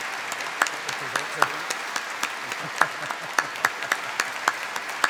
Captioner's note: applause; laughs